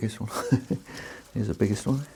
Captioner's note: laughs